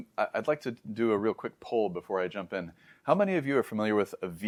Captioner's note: inhales